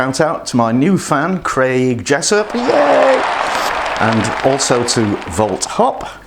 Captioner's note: cheering